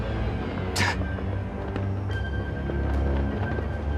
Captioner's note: scoffing